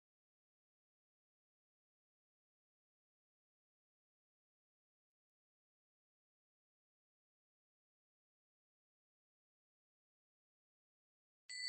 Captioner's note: bells ringing